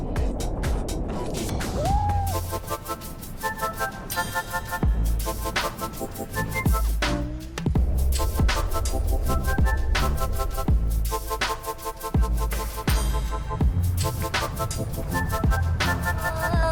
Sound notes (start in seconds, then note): 1.7 excited shouting; 10.5 intense electronic music